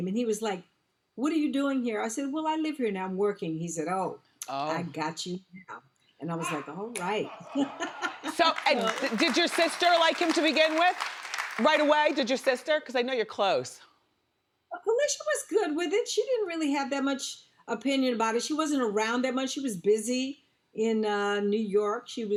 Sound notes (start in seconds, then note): 7.0 Debbie laughs; 7.1 audience laughs; 8.2 audience claps